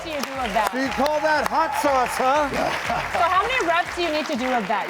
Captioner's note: crowd cheers